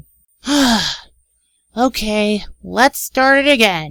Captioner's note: sighs